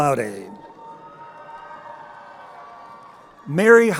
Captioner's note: crowd cheering